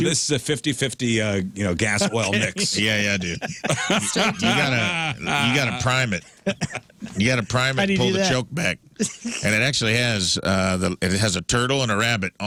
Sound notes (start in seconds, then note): 4.1 laughing